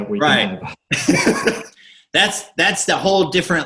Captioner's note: laughs